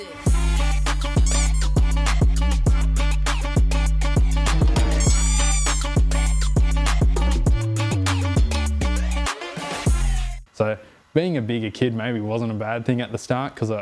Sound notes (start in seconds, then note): 1.2 squeak; 3.0 squeak